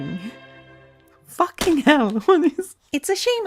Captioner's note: laughs